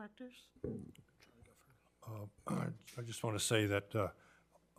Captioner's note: speaks faintly